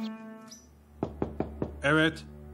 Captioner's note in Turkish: Kapı çalıyor